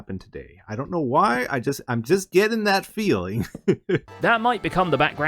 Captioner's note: laughs